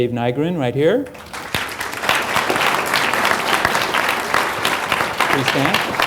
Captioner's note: applause